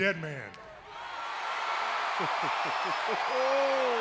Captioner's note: crowd cheering